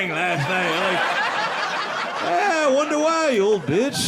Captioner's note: audience laughing